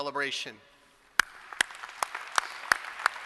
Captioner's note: applause